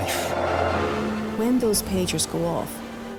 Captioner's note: engine roaring